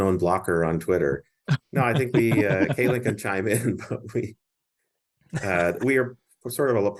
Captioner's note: laughter